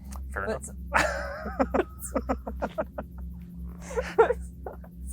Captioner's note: laugh